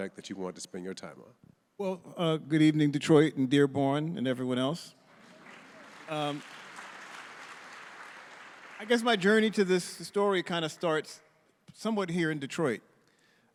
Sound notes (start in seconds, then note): 5.0 audience applauding